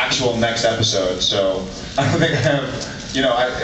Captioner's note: laughs